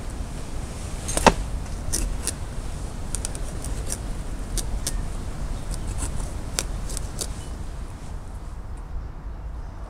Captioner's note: knife cutting; knife stab